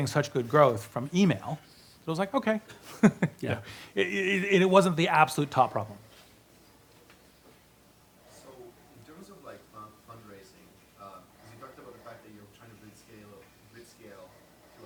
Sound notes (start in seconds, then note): 2.8 laughs; 8.5 voiceover